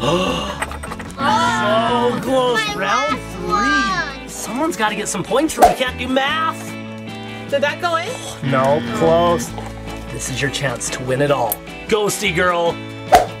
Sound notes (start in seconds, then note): 0.0 gasps; 8.4 buzzer dinging; 13.1 eyeball whooshing